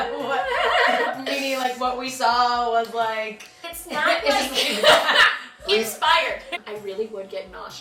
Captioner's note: laughter